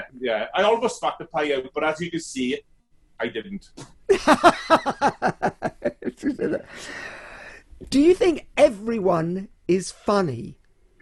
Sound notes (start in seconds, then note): 4.0 laughs loudly